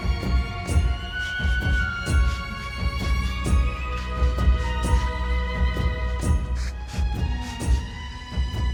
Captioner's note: spritzing continues